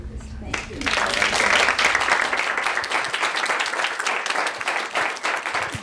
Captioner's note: applause